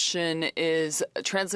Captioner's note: speaking French